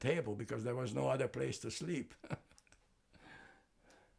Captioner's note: laughing